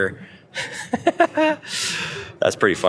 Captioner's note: host laughing